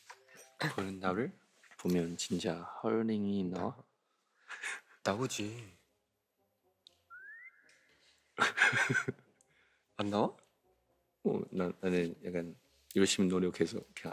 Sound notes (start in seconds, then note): 8.4 laughs